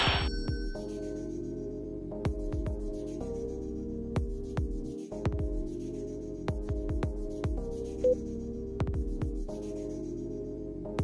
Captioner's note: gunshot and cash register sound effect signaling the instaKILL app alert